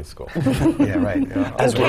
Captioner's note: laugh